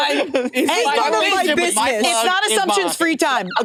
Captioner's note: laughs; participants chattering